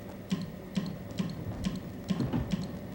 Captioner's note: clicks